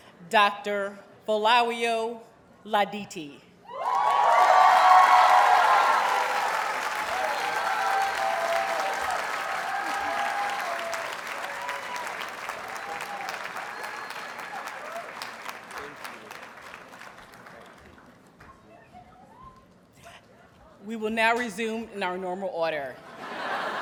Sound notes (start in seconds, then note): 3.7 audience cheers and applauds